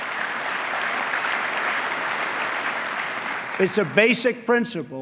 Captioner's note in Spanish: aplauso